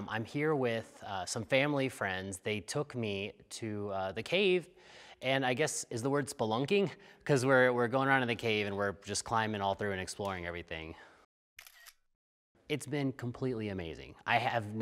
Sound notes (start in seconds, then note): 11.6 shutter clicks